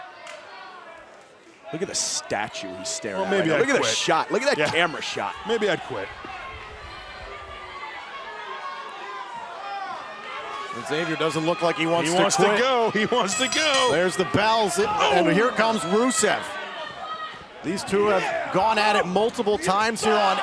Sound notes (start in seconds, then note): 15.0 bell ringing